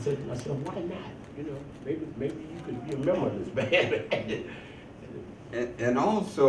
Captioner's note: laughs